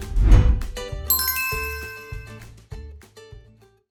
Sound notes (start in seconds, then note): 0.0 air whooshing; 0.0 upbeat music; 1.0 bell chiming